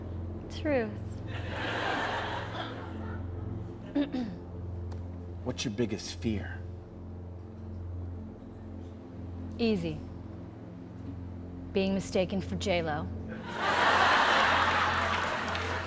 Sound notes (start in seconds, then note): 3.9 clears throat; 13.4 laughter